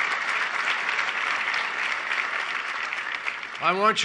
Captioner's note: applause